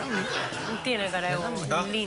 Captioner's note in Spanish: Risas